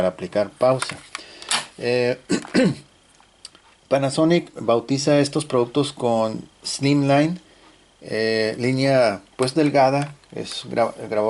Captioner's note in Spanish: carraspeo